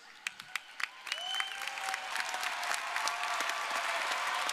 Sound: audience cheering

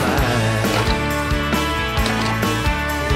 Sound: door rattles

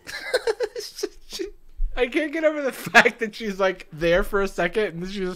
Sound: laughs

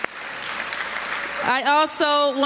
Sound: applause

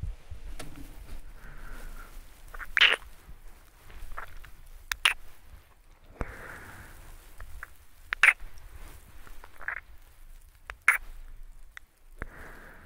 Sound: deep kisses sound

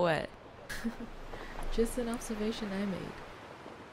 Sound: chuckles

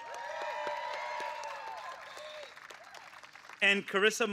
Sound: applause

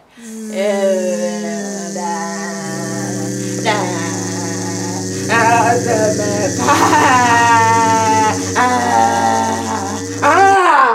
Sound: Powerful Buzzing and Sith-like mumbling

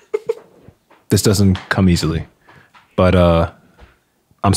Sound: friar laughing

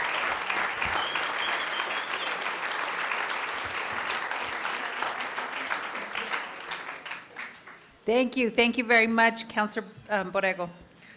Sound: applause

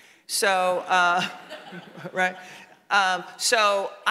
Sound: audience laughing

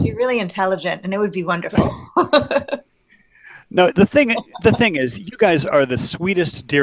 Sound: laughing

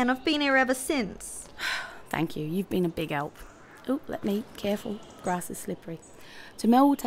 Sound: sigh

